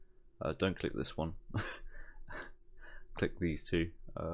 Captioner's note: laugh